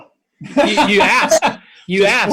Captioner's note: laughter